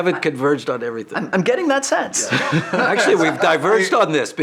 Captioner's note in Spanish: risas